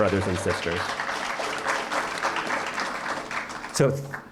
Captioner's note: applause